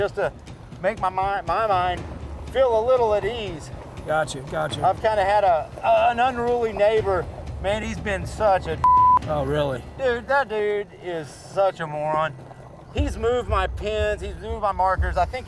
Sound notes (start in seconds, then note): 8.8 beep